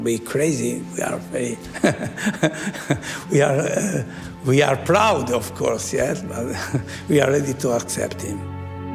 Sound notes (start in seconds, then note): 1.0 laughs